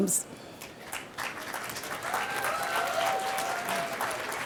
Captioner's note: applause